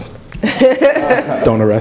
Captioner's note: laughing